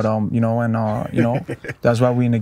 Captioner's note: Andre chuckling